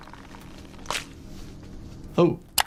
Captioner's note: neck pops